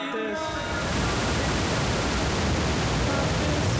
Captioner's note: distortion echoes